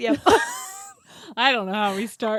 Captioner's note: both laughing